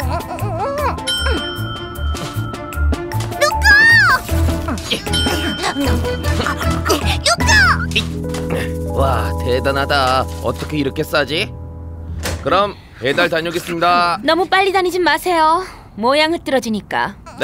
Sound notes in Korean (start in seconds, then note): 1.0 종이 울린다